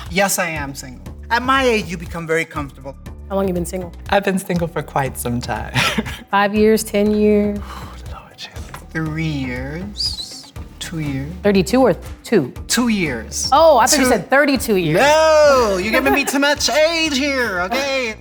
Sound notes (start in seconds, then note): 5.8 laughing